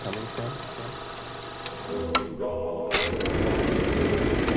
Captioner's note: projector clicking